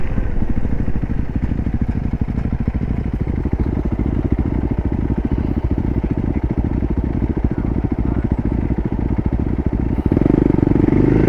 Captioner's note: motor slowing down to idle